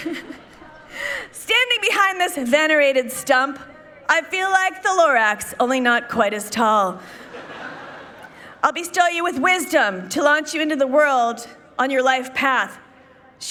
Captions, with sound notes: Standing behind this venerated stump, I feel like the Lorax, only not quite as tall. (people laughing) I'll bestow you with wisdom to launch you into the world on your life path.